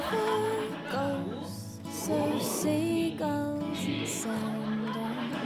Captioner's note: audience laughing; woman speaking Chinese